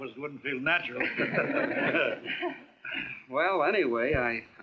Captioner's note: laughing